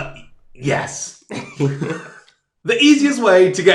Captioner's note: laugh